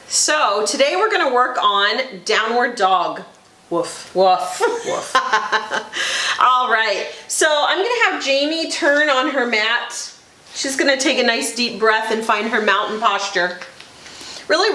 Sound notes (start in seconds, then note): 4.6 laughs